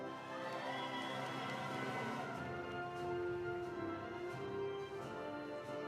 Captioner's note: audience applauding; audience cheering